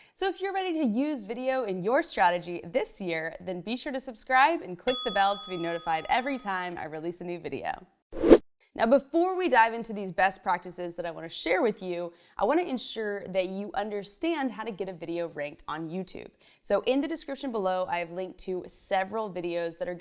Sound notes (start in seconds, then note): 4.9 bell dings; 8.1 fast whoosh